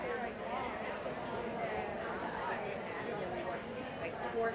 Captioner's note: audience chatter